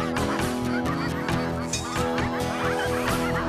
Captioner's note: ducks Quacking